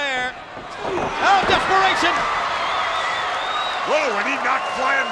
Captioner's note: blows thudding; body thudding